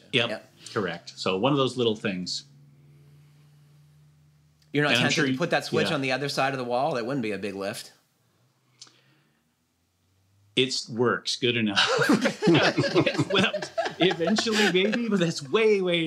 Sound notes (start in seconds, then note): 11.7 laughter